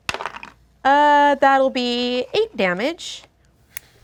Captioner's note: dice roll